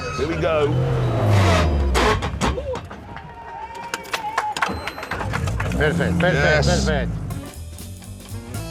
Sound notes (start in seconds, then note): 1.0 gears crunching; 3.0 engine dies